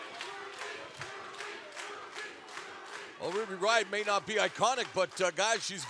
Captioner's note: fans chanting